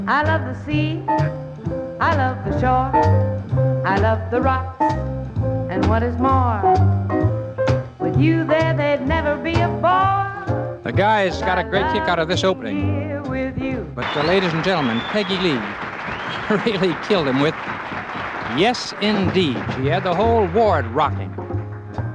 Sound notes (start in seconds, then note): 13.5 audience applauds